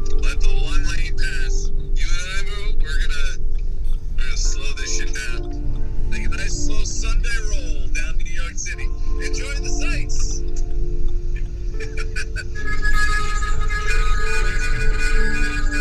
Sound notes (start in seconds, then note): 11.7 laughs